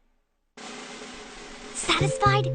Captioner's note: whispering